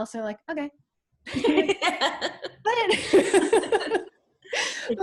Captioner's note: laughs